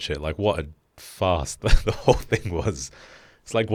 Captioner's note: laughs